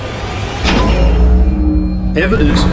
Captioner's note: systems clicking